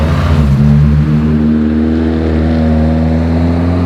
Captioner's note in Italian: motore cresce progressivamente di giri